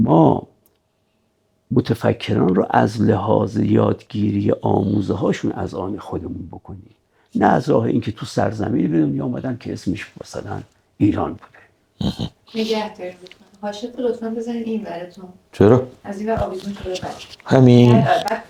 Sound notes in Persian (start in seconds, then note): 12.0 صدای خرناس